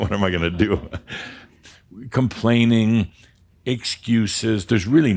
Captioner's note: Adamus chuckles